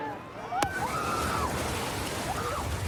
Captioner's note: excited screaming